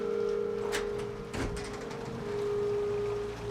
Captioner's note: door unlatching; eerie music; rain pattering